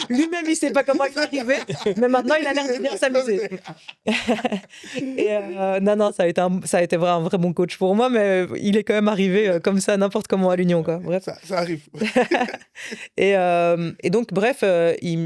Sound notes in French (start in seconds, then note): 4.9 rires; 11.9 rires